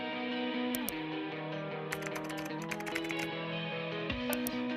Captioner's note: bright music; mouse clicks; keyboard clacking; mouse clicks